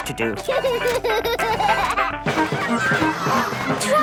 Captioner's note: George giggles; gasps